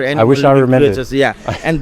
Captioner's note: chuckles